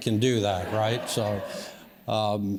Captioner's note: audience laughs